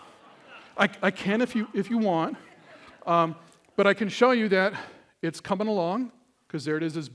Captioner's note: laughter